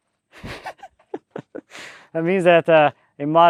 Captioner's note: laughing